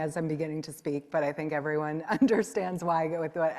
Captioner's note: chuckles